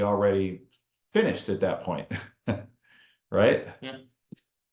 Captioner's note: chuckles